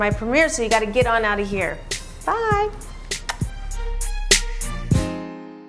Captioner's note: smacks lips